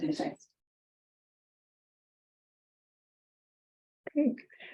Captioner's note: silence